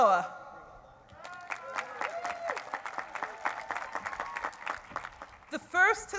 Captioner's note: applause